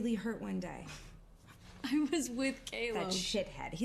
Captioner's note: scoffs